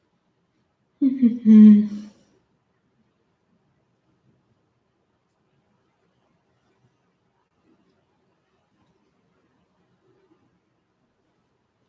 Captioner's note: тишина